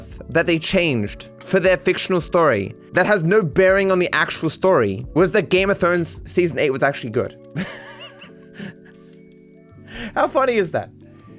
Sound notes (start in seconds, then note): 7.5 laughs